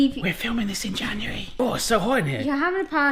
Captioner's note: whispers